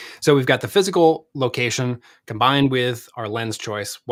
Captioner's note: none